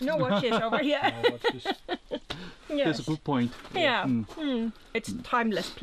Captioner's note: laughter